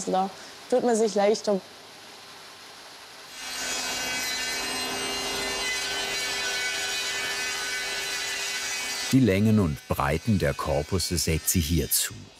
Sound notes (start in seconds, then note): 3.4 sounds of sawing